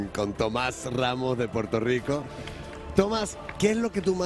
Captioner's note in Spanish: aplausos